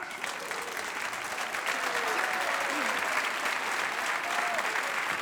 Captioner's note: audience cheers and applauds